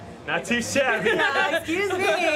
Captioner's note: laughter